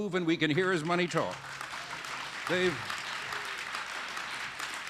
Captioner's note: applause